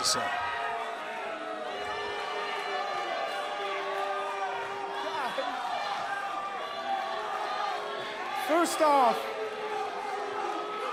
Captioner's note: crowd chatter